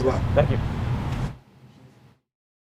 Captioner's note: male Voice